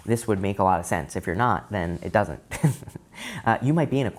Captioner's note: laughing